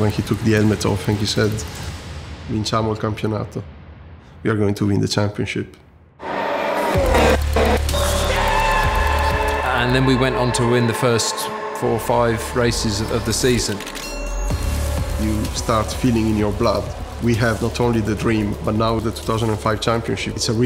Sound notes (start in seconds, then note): 2.0 speaking Italian; 6.3 engines roaring; 7.8 man screaming; 13.6 heavy metal music